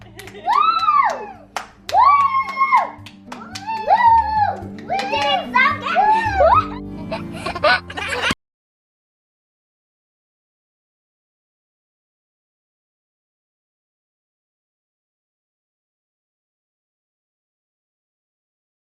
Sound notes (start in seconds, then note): 7.2 laughing